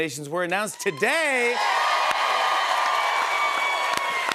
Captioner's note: cheers and applause